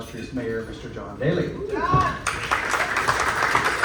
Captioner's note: clapping